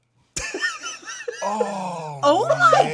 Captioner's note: laughing